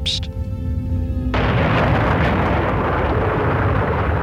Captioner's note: rumbling